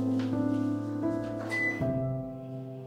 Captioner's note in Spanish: Se enciende el microondas